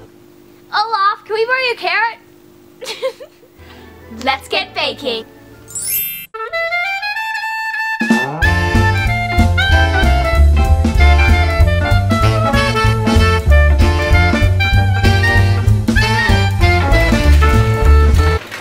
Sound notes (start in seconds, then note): 5.6 chime; 7.3 jazzy music